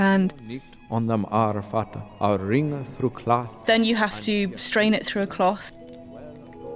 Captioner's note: speaking Old English